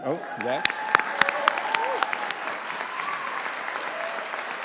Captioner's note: audience applauding